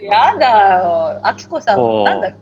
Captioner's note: laughs